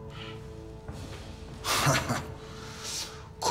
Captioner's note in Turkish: Beybolat gülüyor